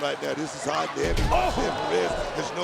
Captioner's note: exclaims